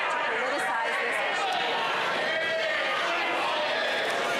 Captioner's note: yelling